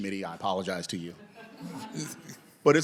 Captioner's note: laughter